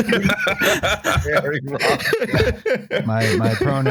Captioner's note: laughing; laughter